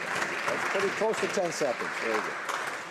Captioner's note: applause